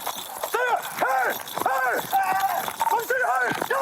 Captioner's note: shouting